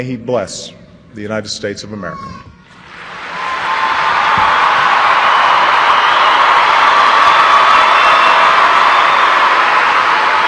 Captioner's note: applause